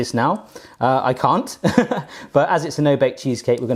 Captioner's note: laughs